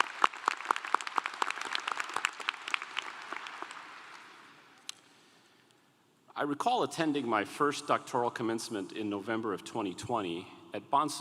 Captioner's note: applause